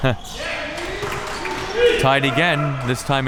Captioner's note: audience applauding and cheering